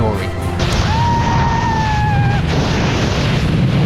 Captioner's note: screaming